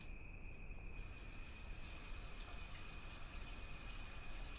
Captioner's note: water running